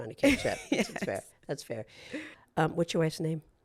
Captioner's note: laughs